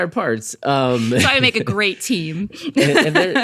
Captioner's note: laughs